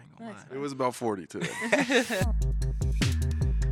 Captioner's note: hosts laughing; upbeat hip hop music